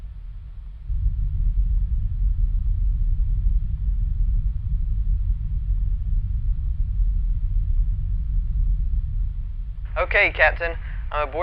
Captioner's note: spaceship engines rumble